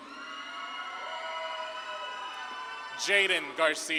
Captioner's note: audience claps and cheers